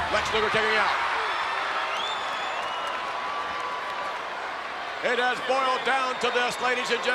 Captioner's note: applause